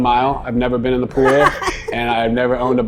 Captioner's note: laughing